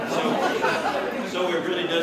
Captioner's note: laughter